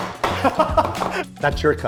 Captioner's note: laughs